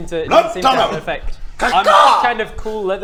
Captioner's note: ca-caw!